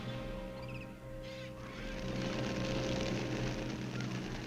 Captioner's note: wings flapping